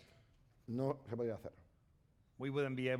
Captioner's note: speaking spanish